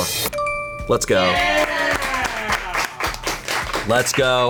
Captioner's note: colleagues applauding